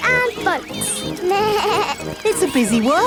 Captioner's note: bleats